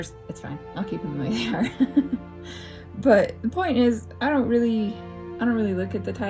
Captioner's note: laugh